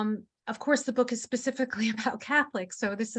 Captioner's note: chuckling